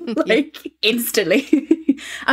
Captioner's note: laughing